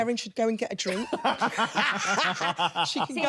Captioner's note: everyone laughing